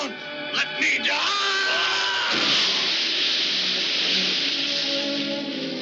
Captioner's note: screams